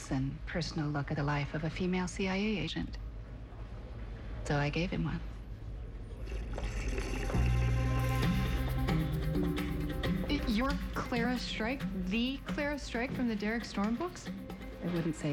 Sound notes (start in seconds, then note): 8.1 slurps